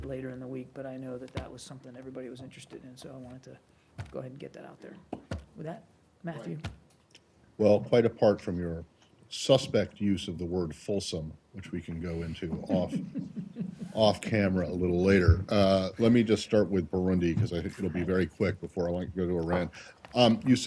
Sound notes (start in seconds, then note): 12.4 laughter